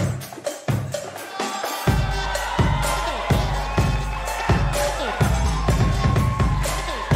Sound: attendees cheering and applauding

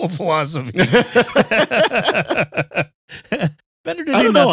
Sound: laughter

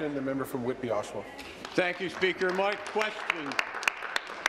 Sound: applause

